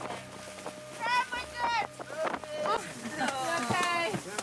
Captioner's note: group conversing indistinctly